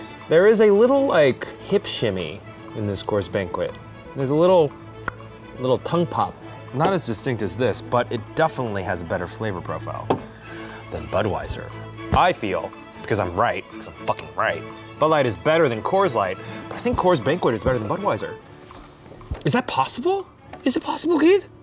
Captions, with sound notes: There is a little, like, hip shimmy... in this Coors Banquet. There's a little *mouth pop* Little tongue pop. Not as distinct as this, but it definitely has a better flavor profile ...than Budweiser. I feel, because I'm right Cuz I'm fucking right. Bud Light is better than Coors Light, but I think Coors Banquet is better than Budweiser Is that possible? Is it possible, Keith?